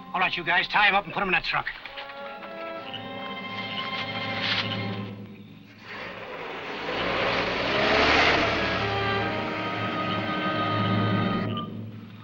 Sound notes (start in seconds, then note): 5.6 truck engine revving